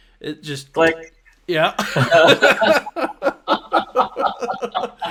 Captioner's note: both laughing